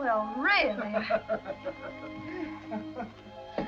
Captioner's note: laughs